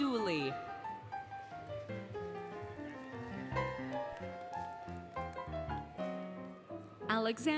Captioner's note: applause, Cheering, Music